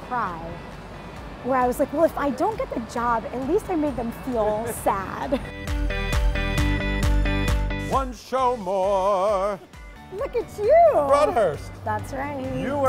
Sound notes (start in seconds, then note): 4.6 laughs; 5.6 upbeat music